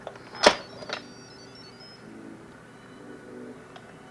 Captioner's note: beeping